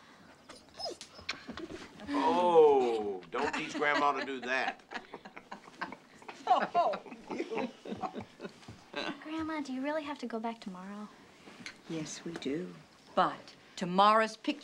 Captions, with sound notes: OH, DON'T TEACH GRANDMA TO DO THAT. [all laughing] GRANDMA, DO YOU REALLY HAVE TO GO BACK TOMORROW? YES, WE DO. BUT TOMORROW'S PICTURE DAY.